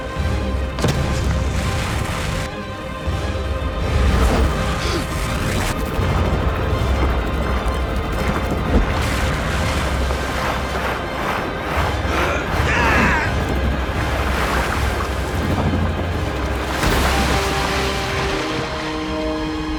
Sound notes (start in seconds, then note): 11.8 grunting; 16.4 splashing